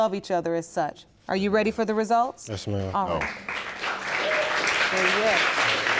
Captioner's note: audience applauding